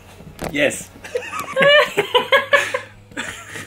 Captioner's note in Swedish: Skratt